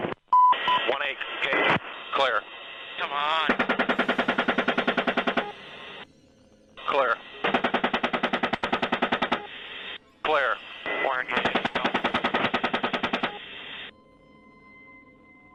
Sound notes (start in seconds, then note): 4.0 gun shots; 11.2 gun shots